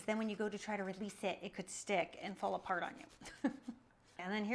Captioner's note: laughs